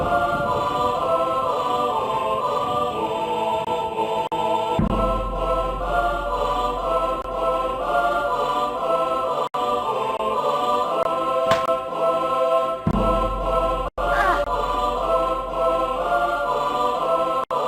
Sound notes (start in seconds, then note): 11.4 snap; 12.4 dramatic Music